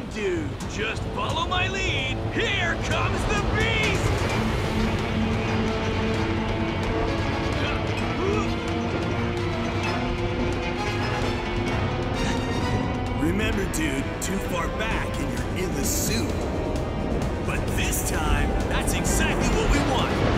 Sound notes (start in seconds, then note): 4.1 tense music; 7.5 grunting